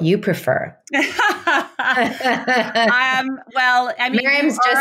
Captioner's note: women laughing